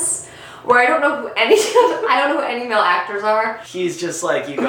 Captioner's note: laughs